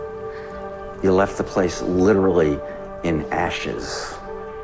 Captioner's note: voiceover